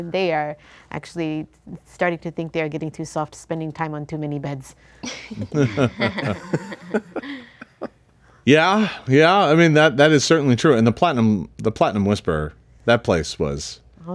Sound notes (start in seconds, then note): 5.1 all laughing